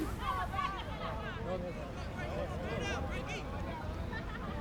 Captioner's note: players yelling